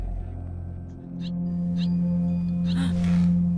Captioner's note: bird chirping